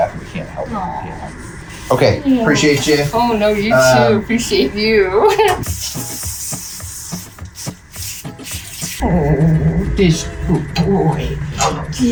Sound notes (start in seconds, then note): 7.6 laughs